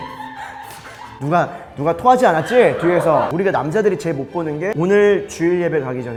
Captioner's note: screams